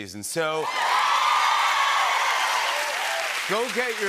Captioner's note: cheers and applause